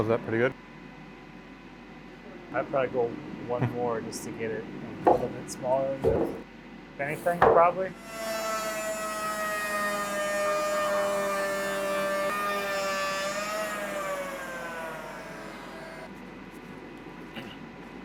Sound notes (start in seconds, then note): 10.6 planer grinding